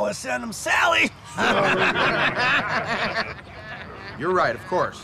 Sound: laughing

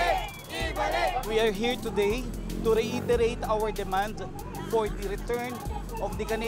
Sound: chants

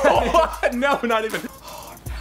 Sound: laughs

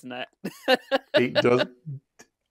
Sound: laughs

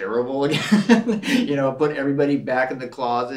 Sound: Gregg laughs

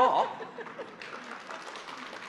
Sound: audience laughs; audience claps

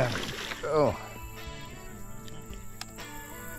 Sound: fish splashing

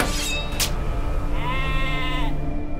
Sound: knife clings; lamb bleats

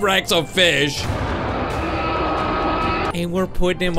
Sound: Bonrex roars

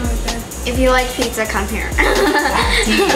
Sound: laughter

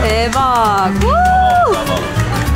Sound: cheering

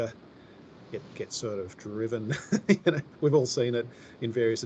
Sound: laughs

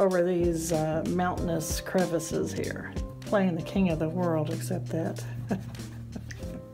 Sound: laughs

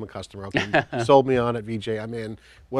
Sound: chuckles

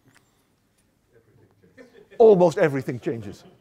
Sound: laughter

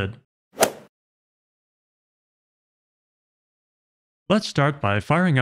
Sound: golf ball hit sound effect

